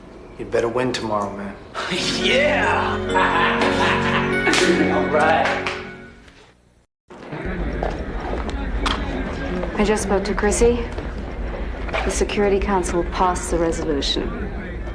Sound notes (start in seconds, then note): 1.7 laughs